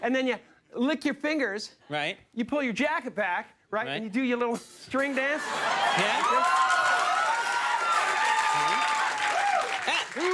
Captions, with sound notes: And then you lick your fingers, you pull your jacket back, you do your little string dance. (audience cheers)